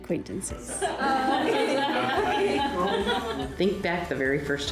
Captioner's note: all laugh